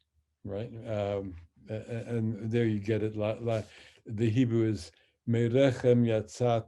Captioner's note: speaks Hebrew